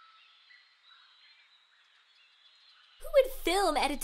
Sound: birds chirping

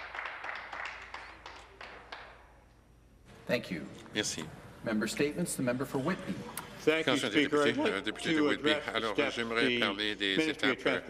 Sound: some Applause

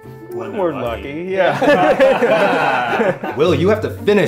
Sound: laughter

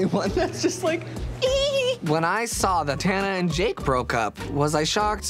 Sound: giggling

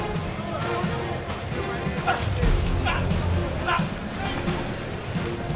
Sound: both grunting

